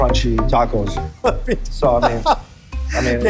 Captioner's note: laughter